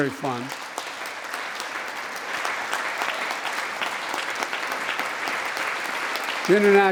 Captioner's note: applause